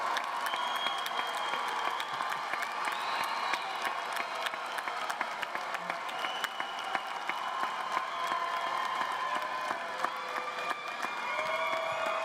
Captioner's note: cheers and applause